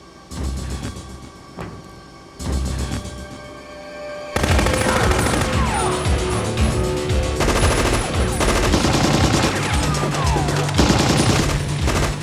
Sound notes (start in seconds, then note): 4.3 machine gun firing; 4.4 men screaming; 7.6 machine guns firing